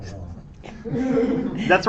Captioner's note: laughter